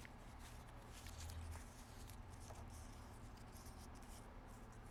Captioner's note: paper rustling